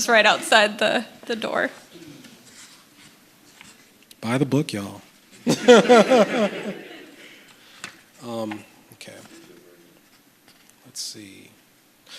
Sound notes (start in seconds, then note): 5.4 laughter